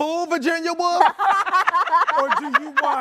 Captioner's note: laughing